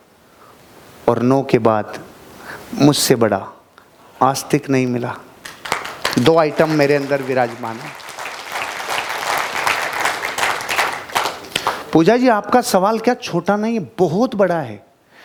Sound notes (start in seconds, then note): 8.5 rounds of applause